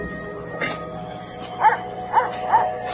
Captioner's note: dog barking